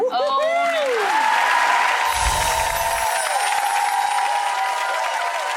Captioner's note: crows cheering and clapping